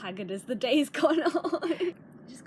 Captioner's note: laughter